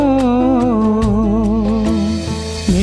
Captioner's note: humming